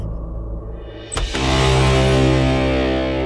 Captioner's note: Door opens